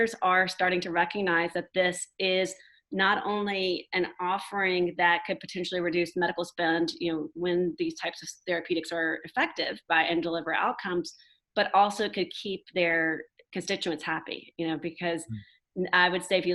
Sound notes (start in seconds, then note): none